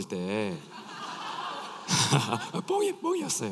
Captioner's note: laughs